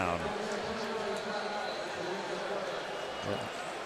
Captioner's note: pa announcement